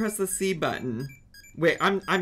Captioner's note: Tamagotchi beeps